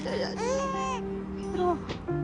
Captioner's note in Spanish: Llanto del bebé